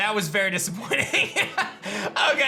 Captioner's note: laughs